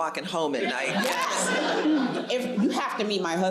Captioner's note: audience laughs